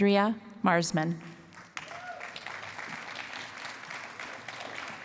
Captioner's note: cheering and applause